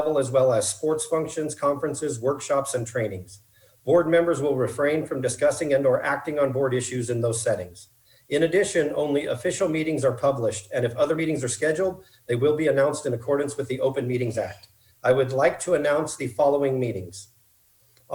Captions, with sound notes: AS ALLOWED BY THE OPEN MEETING RESOLUTION ON OCCASION OF [FAST SPEAKING] ATTEND THE SAME FUNCTION INCLUDING THOSE HELD AT SCHOOL SITES AS WELL AS SPORTS FUNCTIONS, CONFERENCES, WORKSHOPS AND TRAININGS, BOARD MEMBERS WILL REFRAIN FROM ACTING OR DISCUSSING THOSE SETTINGS.